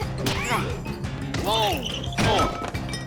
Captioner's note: grunts of effort